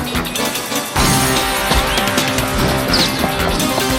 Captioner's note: gunfire continues